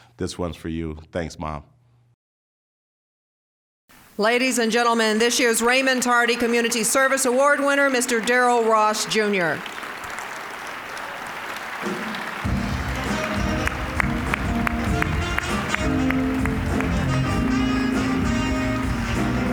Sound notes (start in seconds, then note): 4.1 applause; 10.5 applause; 12.4 smooth jazz music